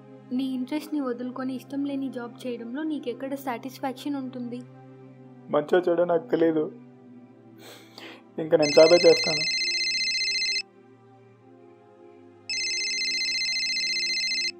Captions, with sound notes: Where do you find satisfaction when you do the job which you don't like ? That too by giving up your interests I don't know ,whether i am doing right or wrong I will go for a job **PHONE RINGS** **PHONE RINGS**